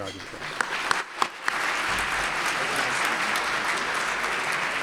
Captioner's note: applause